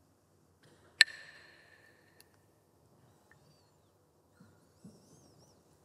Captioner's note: Mooji clacks the sticks